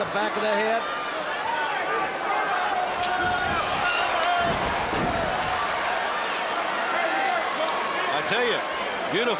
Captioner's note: applause